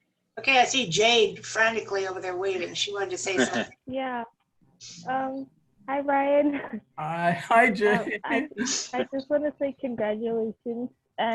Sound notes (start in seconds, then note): 7.3 laughter